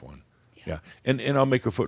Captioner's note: whispers